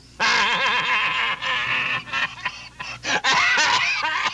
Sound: Homer laughing; Homer coughing

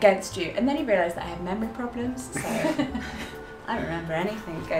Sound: laughs

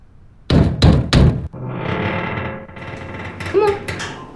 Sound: knocking at the door

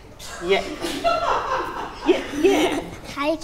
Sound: offscreen laughing

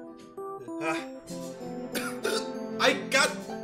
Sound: coughing

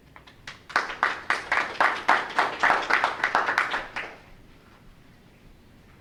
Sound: audience members clapping

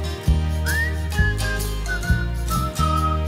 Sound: whistling

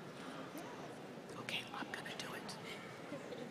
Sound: whispering

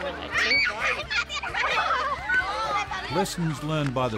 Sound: children laugh

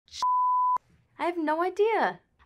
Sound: beep

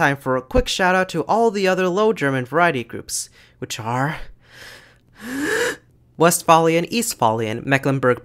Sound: deep breath

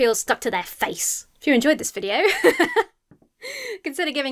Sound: laughs

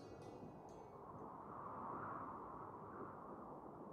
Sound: winds whistling

